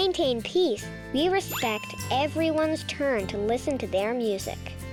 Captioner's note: check mark rings